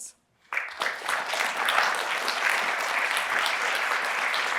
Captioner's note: applause